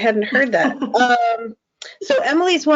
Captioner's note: chuckles